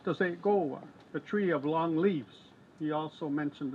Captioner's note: speaks in foreign language